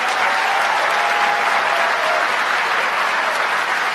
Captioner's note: applause